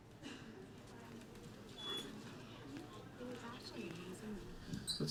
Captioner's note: indistinct conversations